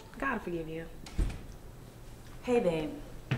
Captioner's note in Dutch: deur sluit